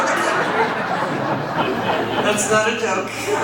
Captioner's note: audience laughs